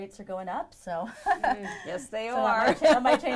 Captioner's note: laughing